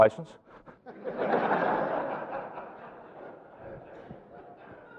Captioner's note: audience laughing